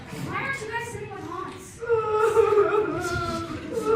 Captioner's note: Hans cries gayly